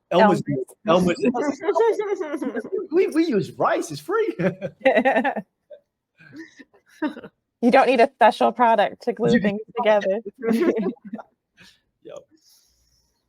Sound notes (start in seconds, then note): 2.8 all laugh